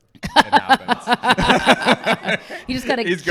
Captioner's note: laughing